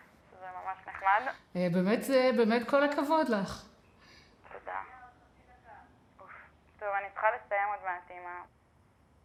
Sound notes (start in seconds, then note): 1.7 speaking foreign language